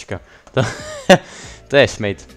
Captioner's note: wheeze